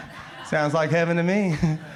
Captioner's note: crowd laughs